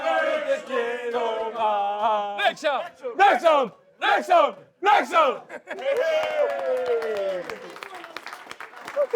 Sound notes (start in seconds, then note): 0.6 chanting